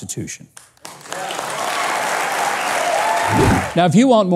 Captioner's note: audience applauding